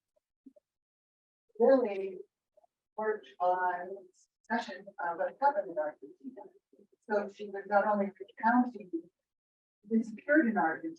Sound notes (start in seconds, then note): 5.2 speaks distorted electronically; 9.6 speaks distortedly